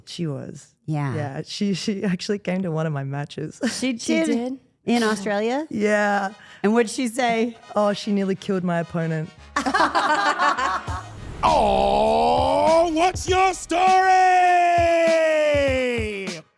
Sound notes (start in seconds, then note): 3.6 Rhea laughs; 9.6 interviewers laugh